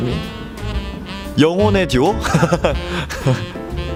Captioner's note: laughs